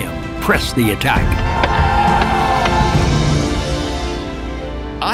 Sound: men yelling

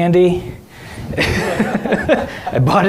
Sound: all laughing

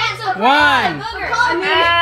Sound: children shouting; buzzing

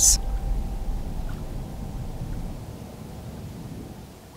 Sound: waves roar

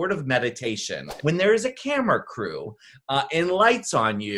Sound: graphic whooshes

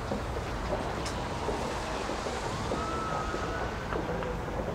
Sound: siren wailing in distance

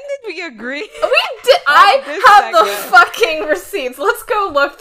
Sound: laughing

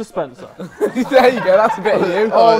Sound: laughs

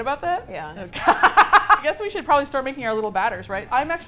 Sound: laughing

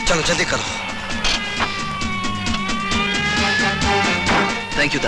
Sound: police siren blares

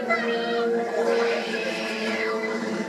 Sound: both yowling

